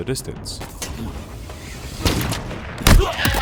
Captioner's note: grapple reels-in